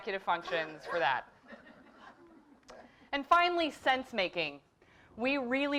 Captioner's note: laugh